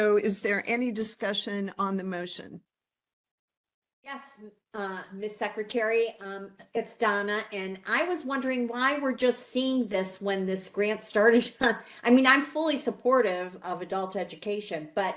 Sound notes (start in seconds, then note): 11.5 laugh